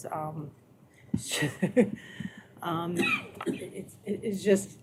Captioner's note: chuckling